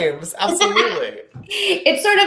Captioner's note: laughing